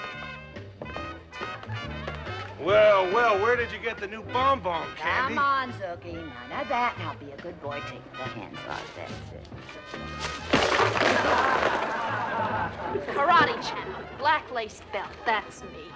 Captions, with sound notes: Well, well. Where did you get the new bonbon, Candy? Come on, Zookie, none of that. Now be a good boy. Take the hands off. That's it. [ Patrons Laughing ] Karate champ, black-lace belt. That's me.